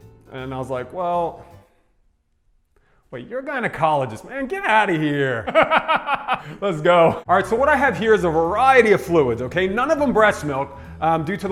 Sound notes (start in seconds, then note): 5.1 laughs